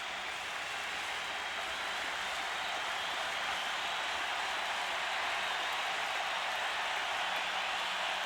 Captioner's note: applause